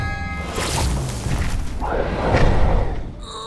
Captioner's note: magical buzzing; Brax roars